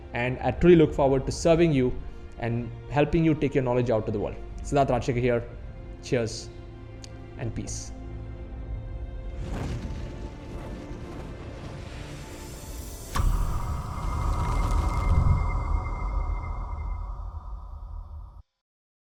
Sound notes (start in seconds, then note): 9.4 wings flapping; 13.3 fire popping